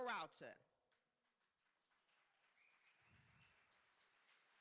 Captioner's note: applause